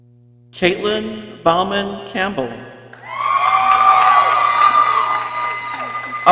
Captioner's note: people cheering